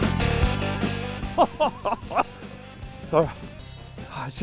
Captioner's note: laughing